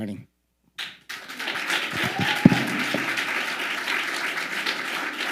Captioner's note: audience applauding